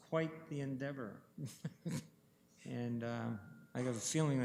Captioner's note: chuckling